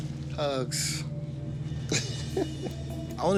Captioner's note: laughs